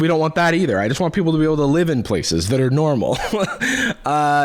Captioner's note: laughs